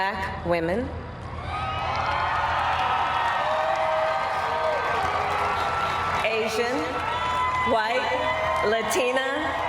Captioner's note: cheers and applause